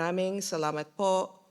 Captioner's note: foreign Language